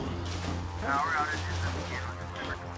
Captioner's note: radio broadcasting